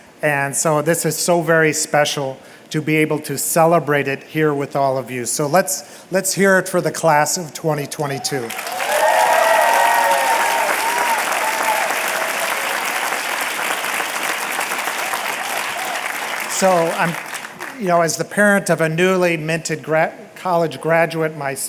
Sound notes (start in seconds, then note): 8.4 applause